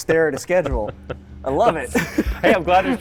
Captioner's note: laughs